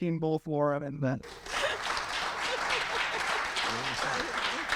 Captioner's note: audience clapping